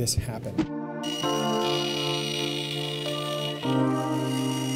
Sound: saw blade sounds

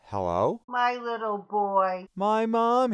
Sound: voiceover

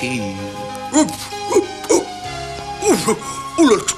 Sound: hiccuping

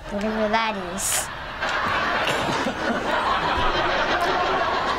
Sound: audience laughs

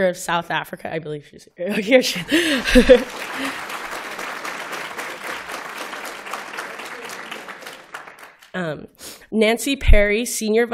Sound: applause

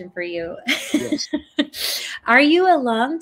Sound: chuckles

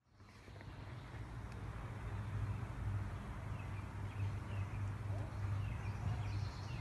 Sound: birds chirping

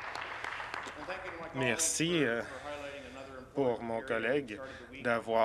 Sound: some Applause

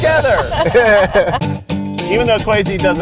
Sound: laughing

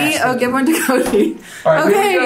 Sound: laughs

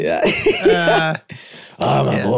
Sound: group laughing

